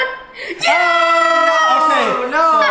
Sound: cheering

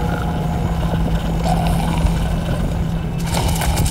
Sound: buzzing intensifies; coarse growling; scurrying

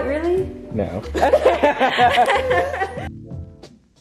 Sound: laughs like hyenas

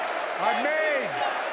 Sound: applause; cheering

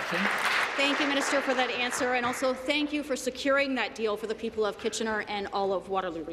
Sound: applause

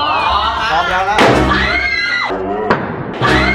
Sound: bang; screams; bang

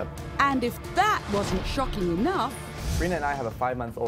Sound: voiceover

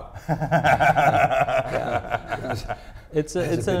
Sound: laughs

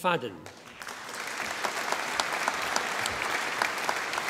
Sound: audience applauding

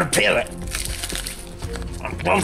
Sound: crunching noises

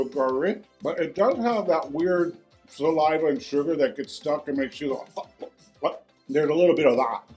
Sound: gagging noise

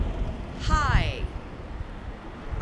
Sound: none

